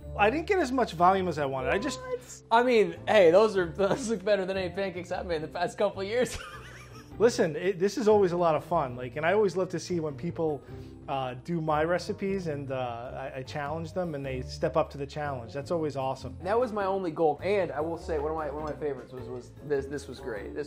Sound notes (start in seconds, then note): 6.2 laughs